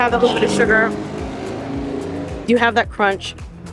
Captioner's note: car engine roaring